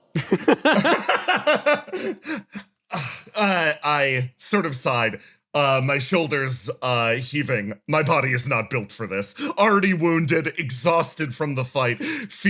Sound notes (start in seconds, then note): 0.1 laughs; 2.9 Yaiyo Sigh